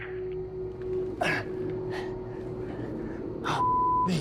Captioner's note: grunts